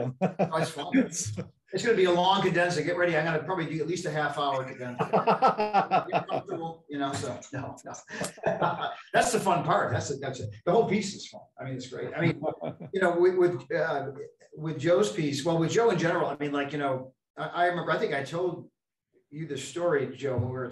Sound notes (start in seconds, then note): 0.0 laughs; 4.4 laughs drown the speaker